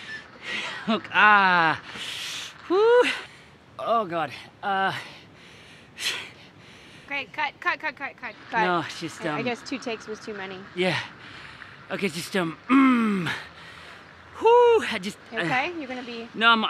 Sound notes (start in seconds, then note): 12.7 groans